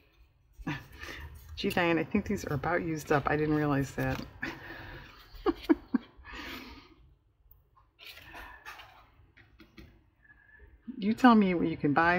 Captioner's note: laughs